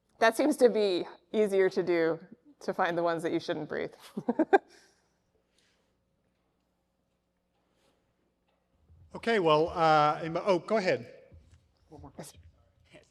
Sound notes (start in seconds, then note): 4.2 laughs